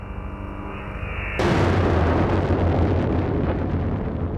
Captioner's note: matter booming